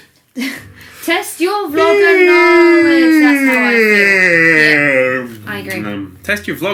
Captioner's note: loud yawning